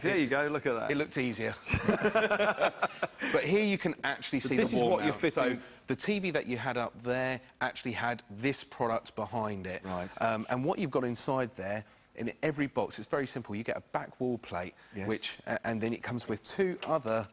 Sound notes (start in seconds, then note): 1.6 men chuckling